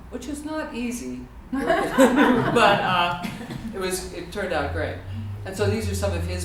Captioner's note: laughter